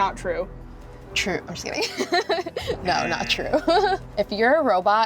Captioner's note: laughs